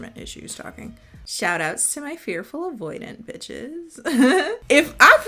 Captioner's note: laughing